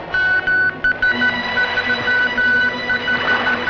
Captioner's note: beeping continues; beeping of Morse Code